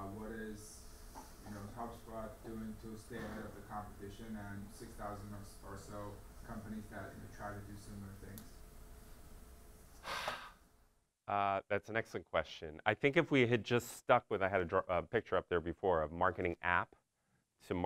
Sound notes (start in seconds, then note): 10.0 sighs